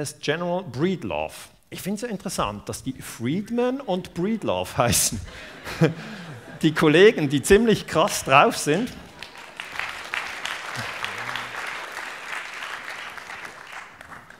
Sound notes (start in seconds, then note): 8.9 laughter; 9.0 applause